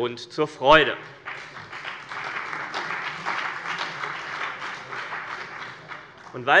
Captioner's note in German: Beifall bei dem BÜNDNIS 90/DIE GRÜNEN und der CDU